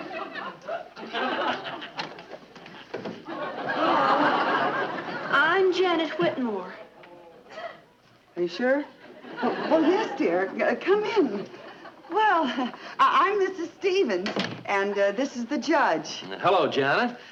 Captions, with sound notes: (audience chuckling) (audience laughing) - Hello! I'm Janet Whitmore. - Are you sure? Well yes, dear, come in. Well, I'm Mrs. Stevens. And this is the judge. - Hello, Janet.